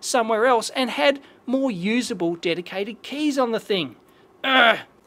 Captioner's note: frustrated grunt